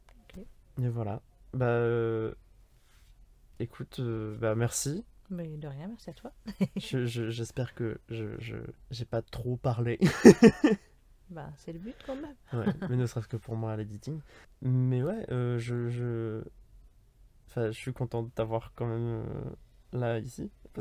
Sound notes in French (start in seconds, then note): 6.4 Rires; 10.0 Rires